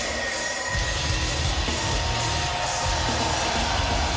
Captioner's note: crowd cheering